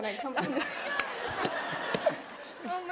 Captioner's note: laughter